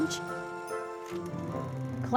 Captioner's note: film projector whirling